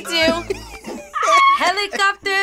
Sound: laughs; screams

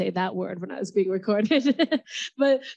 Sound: laughs

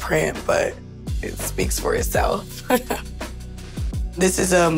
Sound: laughs

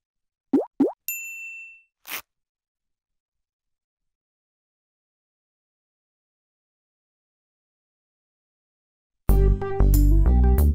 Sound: ding; bouncy music

